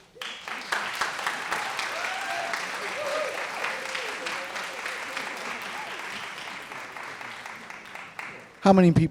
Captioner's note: applause